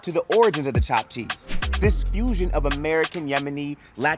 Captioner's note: text whooshes